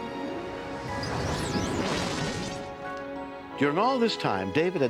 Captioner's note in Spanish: zumbido